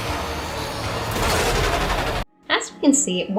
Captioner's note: Sparky roaring noises